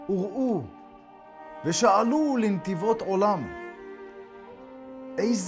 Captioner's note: speaking in Hebrew